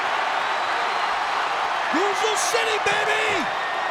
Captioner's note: crowd cheering